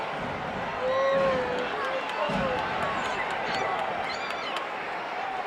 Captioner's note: audience chattering continues